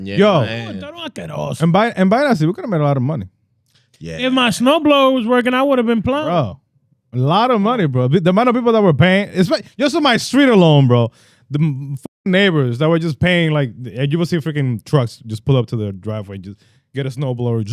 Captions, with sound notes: Yo. (Speaking In Foreign Language) We could've made a lot of money. If my snowblower was working, I would've been plowing. A lot of money, bro. There might've been people that were paying. Just on my street alone, bro. The neighbors that were just paying, like you would see freaking trucks just pull up to the driveway, just get a snowblower.